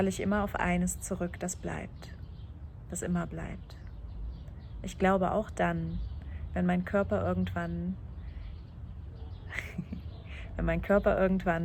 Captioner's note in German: lacht